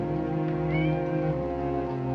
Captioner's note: cat meows